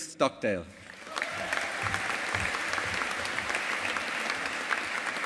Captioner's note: audience applauding